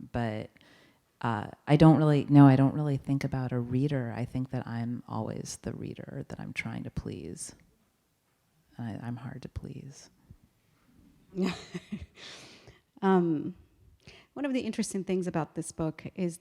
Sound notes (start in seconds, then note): 11.4 laughing